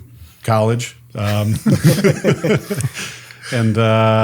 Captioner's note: group laughs